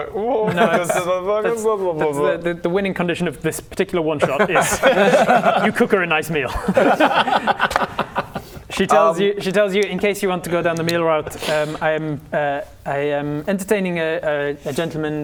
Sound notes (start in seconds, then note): 6.4 PLEASE-just-pick-one laughter